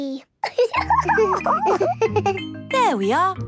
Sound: giggles

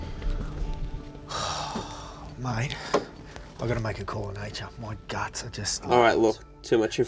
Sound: sighs

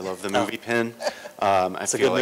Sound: laughter

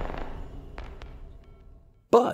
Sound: gunshot

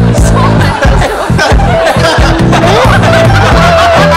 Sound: everybody laughing

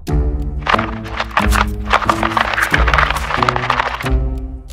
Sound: mysterious music; wheels scraping; clock ticking; mysterious music

